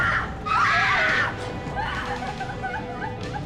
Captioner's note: woman sobbing